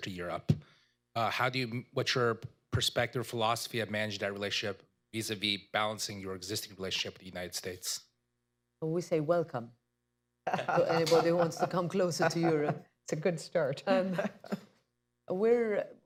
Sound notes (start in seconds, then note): 10.4 laughter